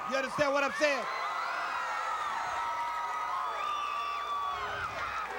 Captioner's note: audience cheers